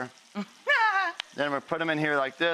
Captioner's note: laughs